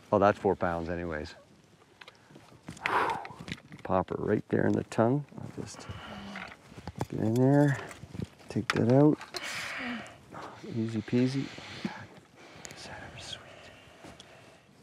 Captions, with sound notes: Well that's four pounds anyways. (exhales) Popper right there in the tongue. I'll just get in there and take that out. Easy peasy. Is that ever sweet?